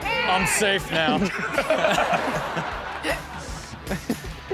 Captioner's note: audience laughs